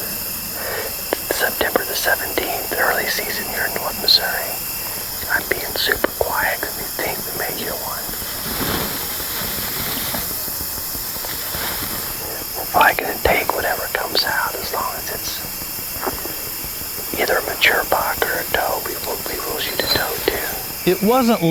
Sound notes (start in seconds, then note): 8.9 whispering